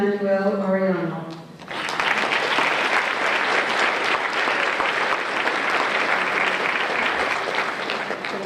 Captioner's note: applause